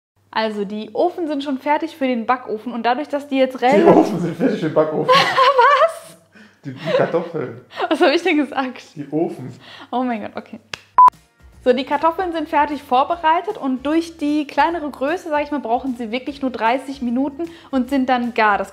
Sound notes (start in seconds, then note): 3.7 laughing